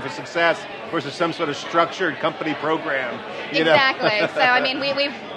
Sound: laughing

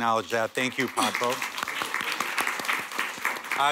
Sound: applause

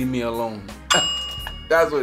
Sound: bell sound

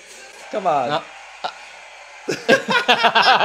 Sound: laughs

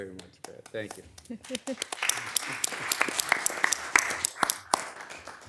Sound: audience applauding

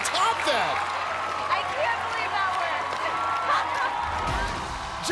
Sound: laughs

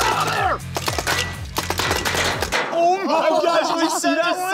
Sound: paint balls hitting

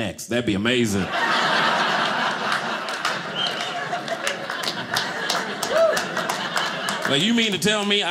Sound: audience laughing

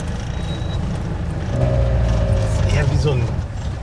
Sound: engine noise

